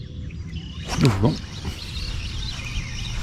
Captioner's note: rod whooshing; birds chirping